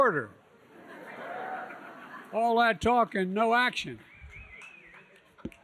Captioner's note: laughter